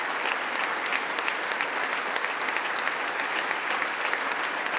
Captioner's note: congress applauding